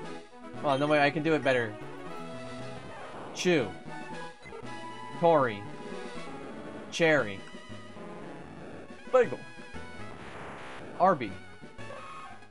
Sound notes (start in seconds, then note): 8.8 silly voice